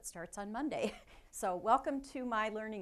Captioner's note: chuckling